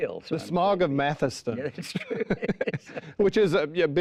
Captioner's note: laughing